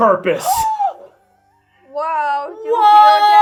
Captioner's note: gasping